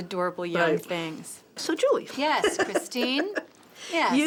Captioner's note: laughs